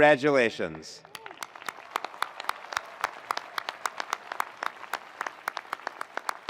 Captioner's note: attendees applauding; attendees cheering